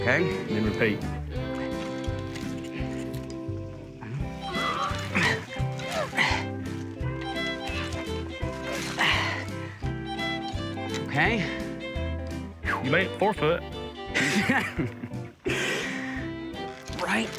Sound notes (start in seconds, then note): 4.0 grunting; 14.0 laughing